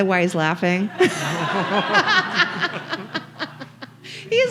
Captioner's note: audience laughing